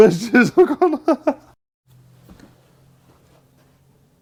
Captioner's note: laughing